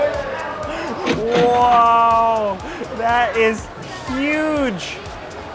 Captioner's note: register chiming